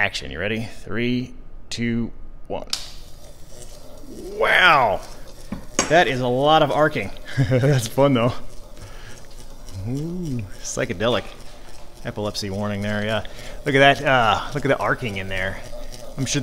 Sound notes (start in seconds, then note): 2.7 switch clicks; 7.0 chuckles